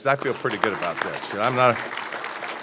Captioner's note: applause